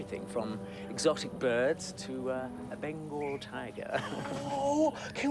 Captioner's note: chuckling